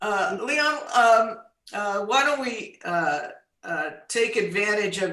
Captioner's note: none